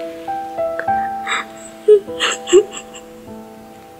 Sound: Amber crying

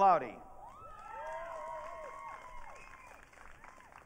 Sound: audience cheering

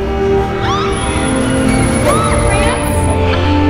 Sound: emma yelling excited; carnival sounds; emma yelling excited; emma moaning

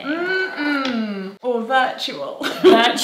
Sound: laughs

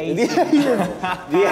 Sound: laughs

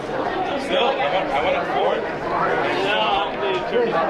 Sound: group chattering

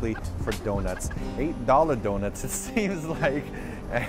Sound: laughing nervously

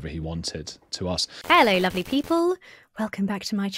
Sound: static buzzes

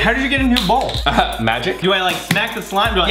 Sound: laughs

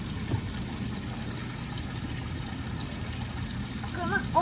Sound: water trickling

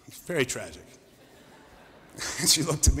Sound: laughter

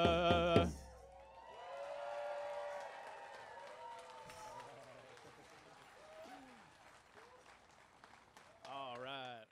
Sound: cheers and applause

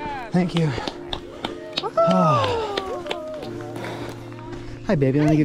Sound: crowd cheering and applauding

